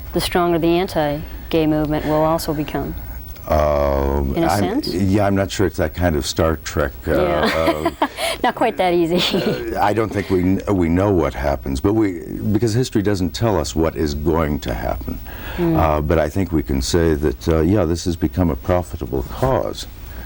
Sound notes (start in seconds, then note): 7.1 laughs